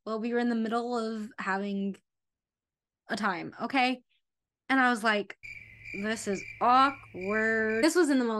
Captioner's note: crickets